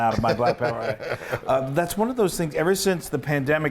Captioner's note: laugh